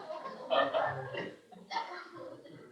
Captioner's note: laughter